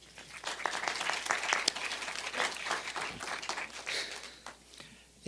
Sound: applause

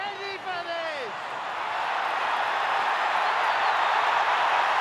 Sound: cheering continues

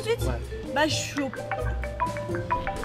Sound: the phone is ringing

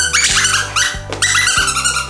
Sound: beep beep

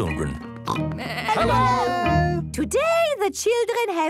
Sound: parents calling out

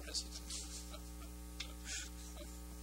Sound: laughing

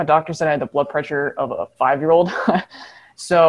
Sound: chuckles

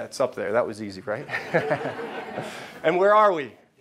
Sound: laughing

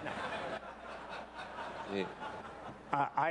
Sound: laughter

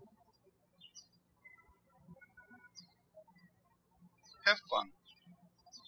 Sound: birds chirping

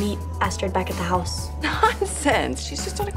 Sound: laughs

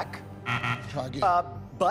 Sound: buzzer

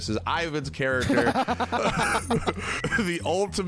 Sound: both laughing

